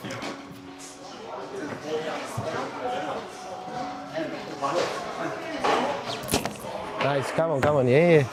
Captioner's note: indistinct chatter